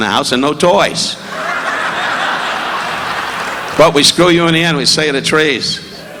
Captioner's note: audience laughing